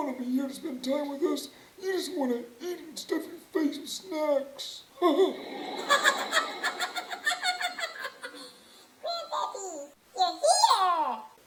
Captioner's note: laughter